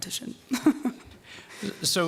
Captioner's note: laughing